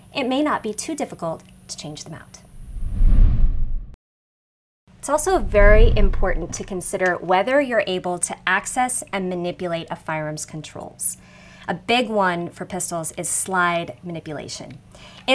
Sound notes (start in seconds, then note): 2.6 graphics sliding